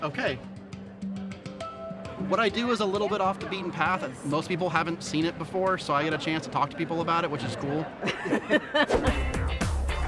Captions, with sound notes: a look at it and it's like, okay. (upbeat music) What I do is a little bit off the beaten path and most people haven't seen it before. So I get a chance to talk to people about it, which is cool. (laughing)